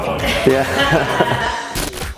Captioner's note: laughter; static